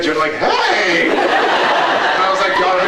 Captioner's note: laughs